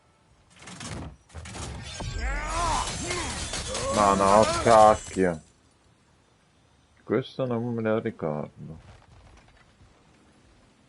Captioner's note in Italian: gemito